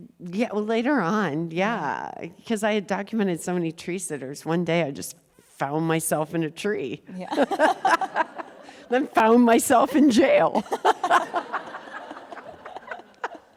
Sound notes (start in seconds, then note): 7.2 laughing; 10.6 laughing